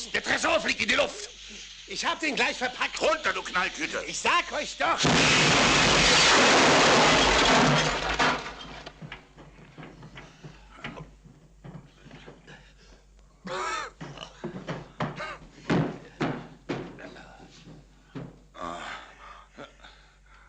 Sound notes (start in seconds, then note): 5.0 explosion booms